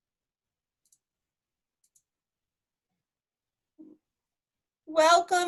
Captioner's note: keyboard clicking